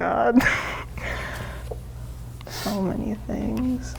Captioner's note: laughs